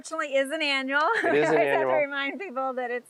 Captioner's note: laughing